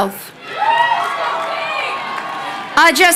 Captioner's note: crowd cheering